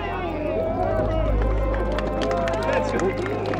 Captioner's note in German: Jubel und Applaus